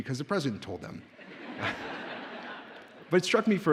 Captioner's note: audience laughs